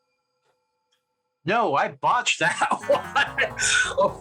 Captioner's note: video game failure sound